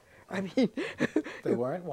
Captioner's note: laughs